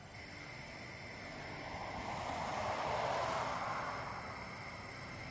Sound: traffic rumbling

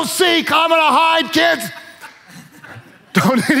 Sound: worship leaders laugh

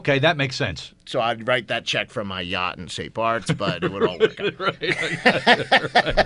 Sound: laughs

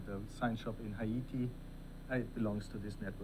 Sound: none

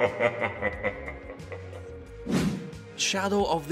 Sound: laughs in demon

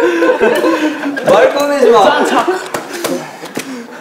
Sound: laughing

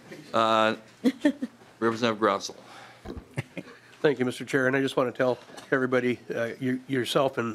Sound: laughing

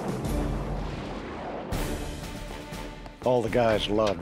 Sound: explosion

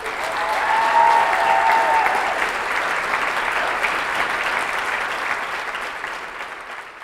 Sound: applause

